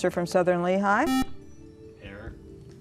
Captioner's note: buzzer